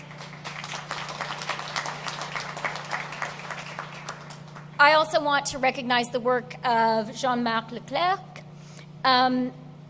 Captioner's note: applause